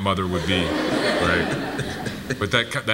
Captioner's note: audience laughs